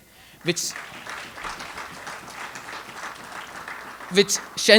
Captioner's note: audience applauds